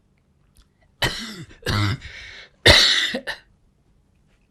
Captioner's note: coughing